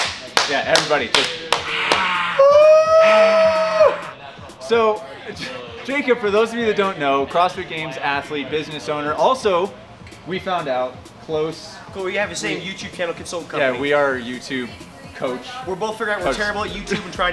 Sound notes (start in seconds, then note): 1.1 both clap; 1.6 cheers